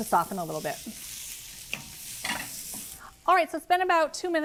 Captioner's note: pan sizzling